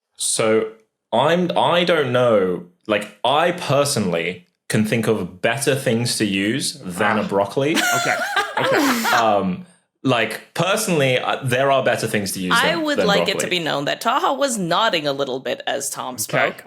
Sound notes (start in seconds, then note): 7.7 laugh